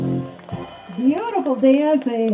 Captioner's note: clapping